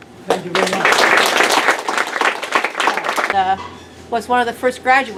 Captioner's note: applause